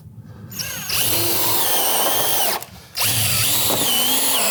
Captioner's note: tool whirring